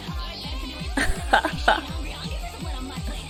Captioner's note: laughs